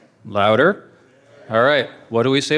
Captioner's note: crowd shouting